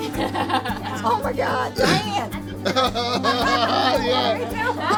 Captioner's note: laughs